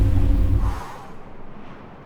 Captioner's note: fwoo